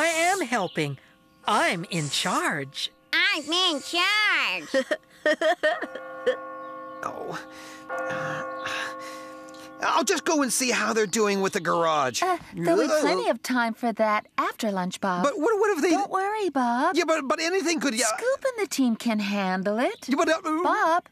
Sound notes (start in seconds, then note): 5.7 clock Chiming; 8.0 moaning